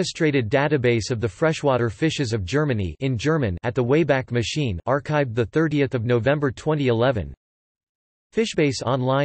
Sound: in German

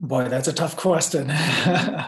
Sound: laugh

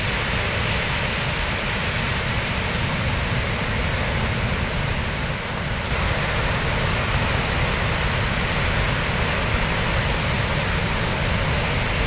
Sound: water rushing

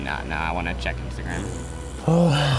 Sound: fart noise

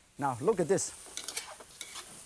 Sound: none

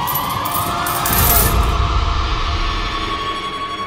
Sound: coins clinking

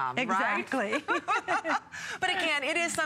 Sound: laughter

